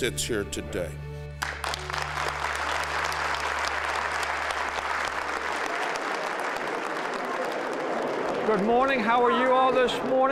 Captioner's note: applause